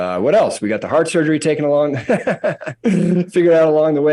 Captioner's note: laughs